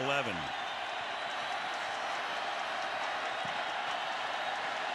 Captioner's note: cheering